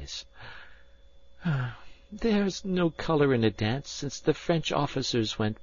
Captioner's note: sighs